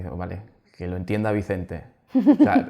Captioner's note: laughs